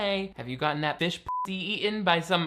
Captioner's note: beep